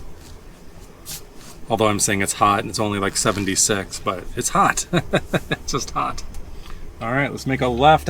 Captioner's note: laughs